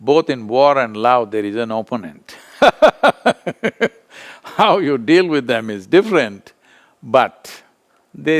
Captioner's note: laughs